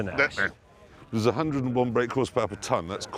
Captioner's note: whispering